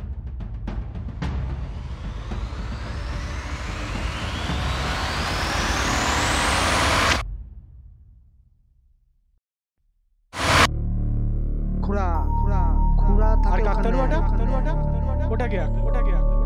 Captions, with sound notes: (voices echo) 'That scarecrow… Draw it.